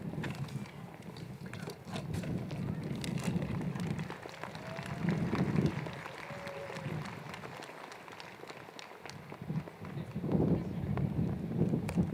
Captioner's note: applause